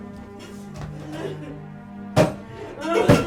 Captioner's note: crying